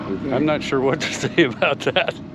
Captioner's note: chuckling